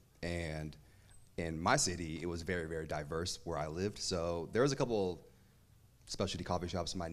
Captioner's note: none